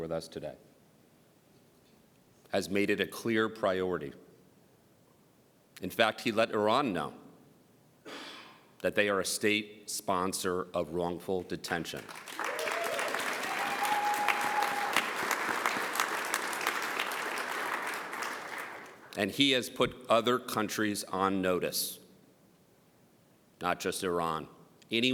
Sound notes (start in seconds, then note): 14.8 applause